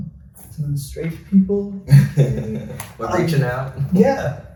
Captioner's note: chuckles